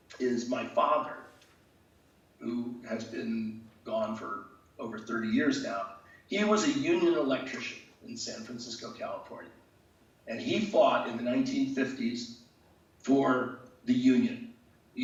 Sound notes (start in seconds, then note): none